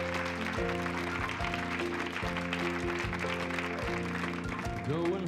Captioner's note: applause, music starts